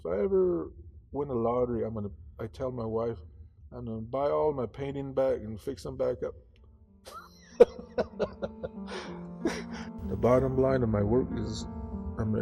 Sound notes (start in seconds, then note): 7.6 laughs; 8.5 tranquil piano music